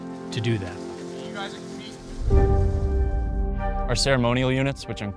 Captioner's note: cadets vocalizing